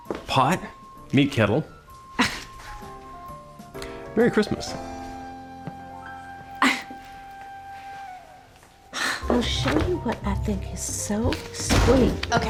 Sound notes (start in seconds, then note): 2.0 scoffs; 6.4 scoffs; 11.5 door opens, closes